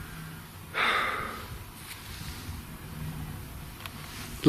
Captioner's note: sighing